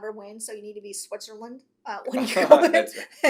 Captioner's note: laughs